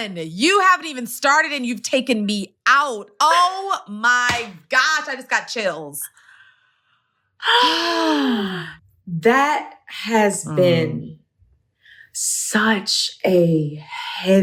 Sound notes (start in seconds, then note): 7.4 sighs